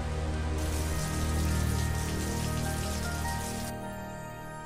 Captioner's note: water drips